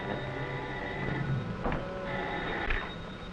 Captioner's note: phone ringing